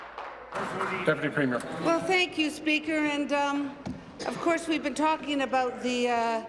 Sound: applause

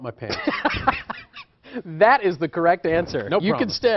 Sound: laughs

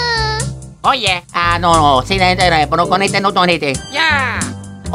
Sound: italian gibberish; more Italian gibberish

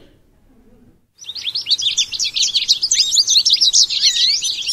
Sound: goldfinch singing

